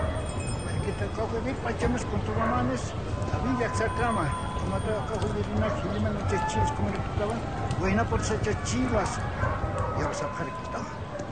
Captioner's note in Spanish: Hombre hablando en aymara